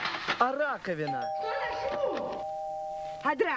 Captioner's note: doorbell